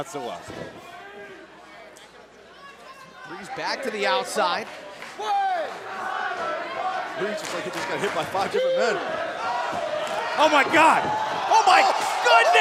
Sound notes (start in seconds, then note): 6.2 crowd chatter